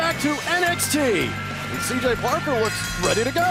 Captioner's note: bell ringing